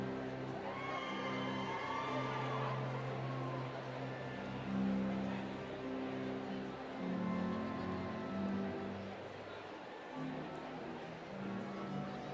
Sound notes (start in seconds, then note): 0.6 cheering; 7.0 instrumental music